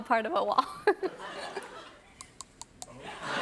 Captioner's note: laughter